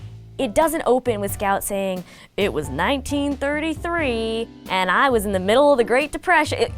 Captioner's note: Scout talking